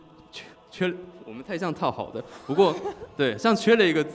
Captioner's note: laughs